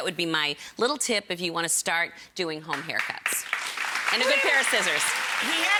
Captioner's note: audience claps